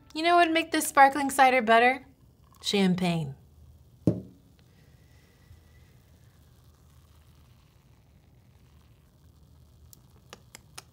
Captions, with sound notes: You know what'd make this sparkling cider better? Champagne. (bottle taps) (lips smack)